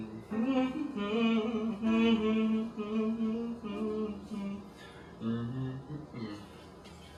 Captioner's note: Alex continues humming, but is unsatisfied with the melody